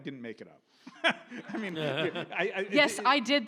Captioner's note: audience laughs